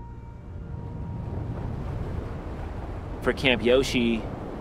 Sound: ominous music; wind blowing

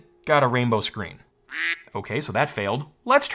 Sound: duck quacks

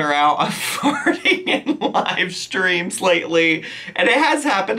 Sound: laughs

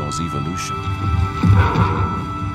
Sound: dinosaur grunting

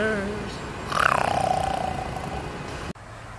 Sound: snoring

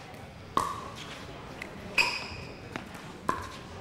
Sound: ball bouncing

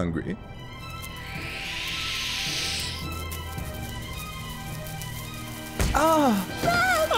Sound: intense music; spiders hissing

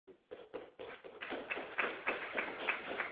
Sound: applause

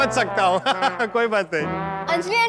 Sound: laughing

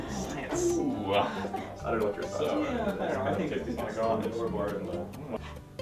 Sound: party chatter

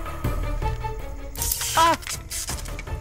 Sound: electrical buzz

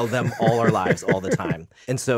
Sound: Justin laughs

